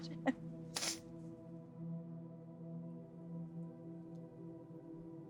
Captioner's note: Vanessa laughing